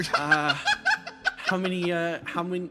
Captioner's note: laughs